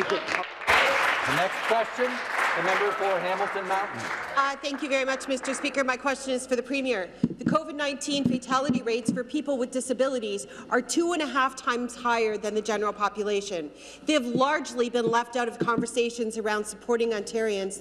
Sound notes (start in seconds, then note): 6.1 some Applause